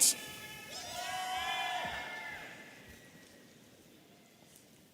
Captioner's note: audience cheering